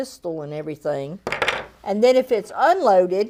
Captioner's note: stick thunking